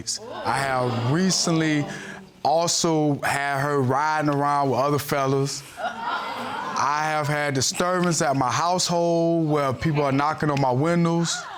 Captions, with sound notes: I have recently also had her riding around with other fellows. (AUDIENCE EXCLAIMING) I have had disturbance at my household, where people are knocking on my windows,